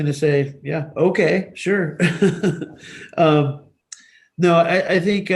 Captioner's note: chuckles